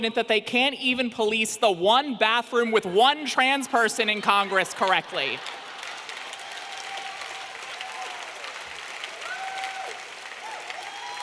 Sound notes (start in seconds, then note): 5.9 audience clapping and cheering